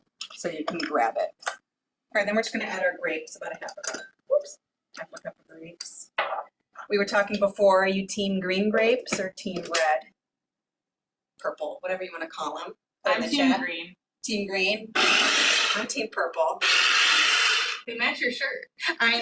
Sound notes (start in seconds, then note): 14.9 machine whirling